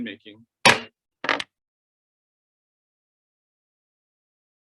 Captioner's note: gavel bangs